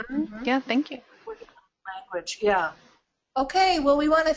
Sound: distorted audio

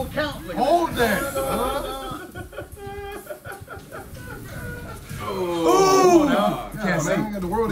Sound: laugh

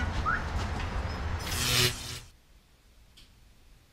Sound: whistles; electrical zapping

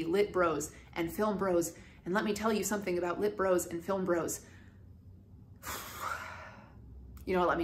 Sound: deep sigh

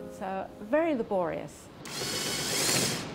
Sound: drill whirring

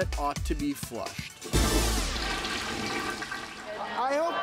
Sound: flushing

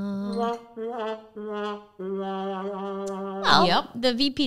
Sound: woman singing; mocking sound

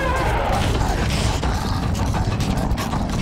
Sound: growling

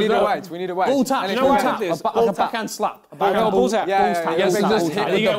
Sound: crowd mumbling

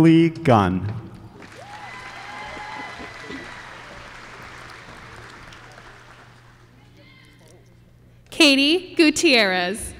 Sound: applause

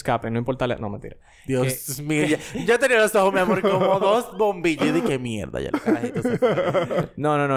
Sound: laughs

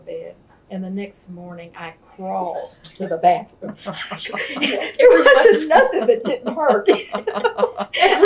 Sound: laughter

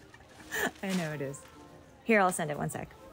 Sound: laugh

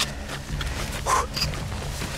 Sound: none

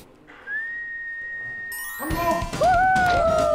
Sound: whistling

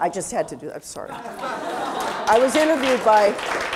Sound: audience applause

